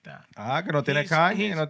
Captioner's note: non-english Speech